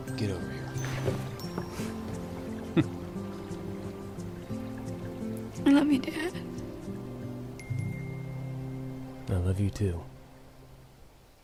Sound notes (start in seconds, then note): 5.6 tearfully